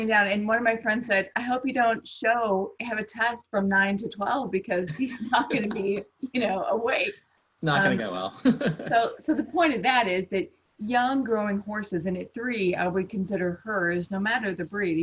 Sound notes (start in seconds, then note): 7.7 laughs